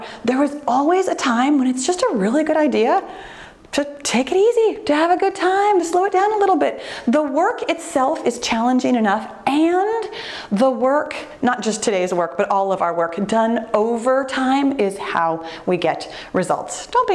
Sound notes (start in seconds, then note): none